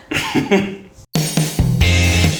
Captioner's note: laughs; upbeat music